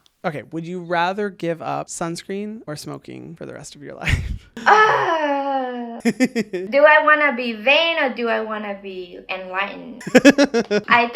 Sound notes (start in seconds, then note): 4.6 laughs; 4.6 cries out; 6.0 laughs; 10.0 laughs